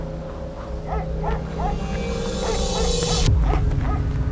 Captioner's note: dog barking